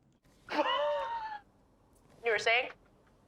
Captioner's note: Zoey laughs